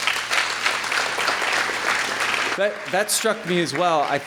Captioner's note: applause